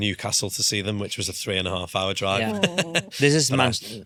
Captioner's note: laughs